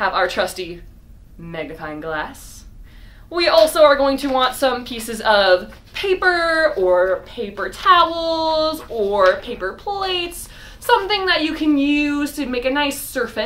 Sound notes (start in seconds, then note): none